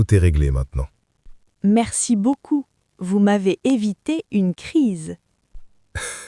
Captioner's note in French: rire